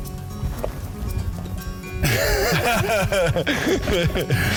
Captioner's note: laughter